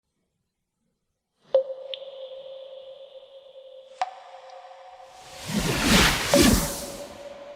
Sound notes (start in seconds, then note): 1.5 dripping water with deep echo; 5.2 whooshing sound